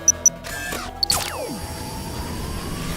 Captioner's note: whirring